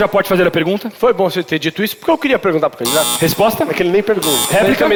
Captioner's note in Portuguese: campainha